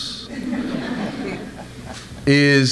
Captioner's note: audience laughs